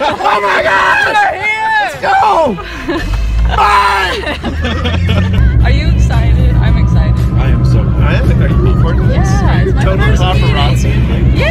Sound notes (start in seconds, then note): 3.2 yells to others; 3.8 car; 4.0 vroooom